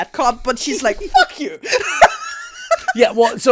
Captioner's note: laughs